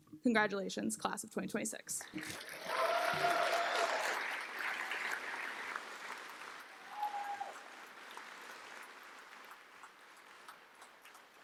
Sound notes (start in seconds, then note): 2.1 cheers, applause